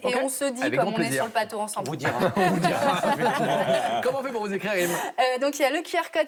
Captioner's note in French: rires